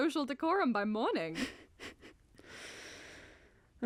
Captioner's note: penny chuckles